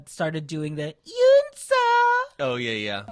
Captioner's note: cutesy voice